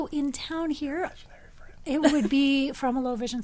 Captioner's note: whispers